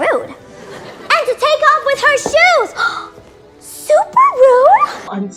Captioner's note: gasp